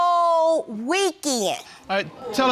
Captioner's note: audience murmurs